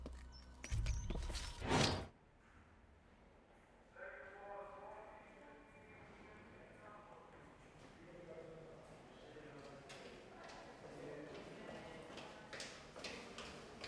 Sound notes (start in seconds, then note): 4.2 foreign language over PA system; 8.3 indistinct chatter